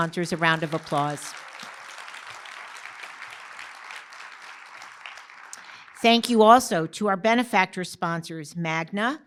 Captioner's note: applause